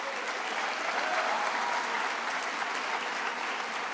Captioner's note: attendees applauding